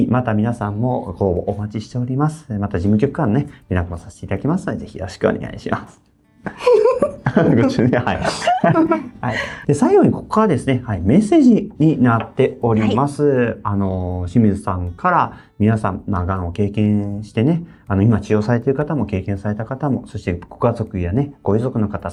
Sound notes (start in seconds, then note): 6.6 laughs